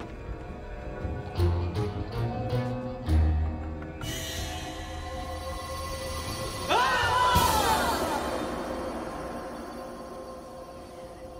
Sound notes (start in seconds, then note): 6.6 all Screaming